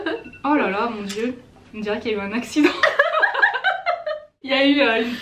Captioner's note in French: rires; rires